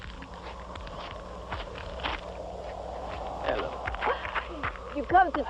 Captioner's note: footsteps